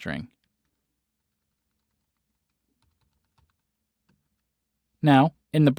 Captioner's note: typing